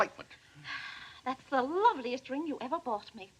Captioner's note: sighs